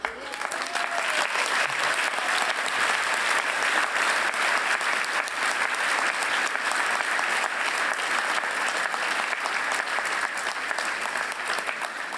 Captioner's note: applause